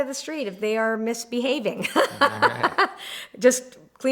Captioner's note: laughs